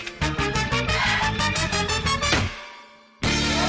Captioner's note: exhales; clunk!